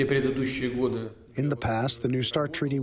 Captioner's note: through translator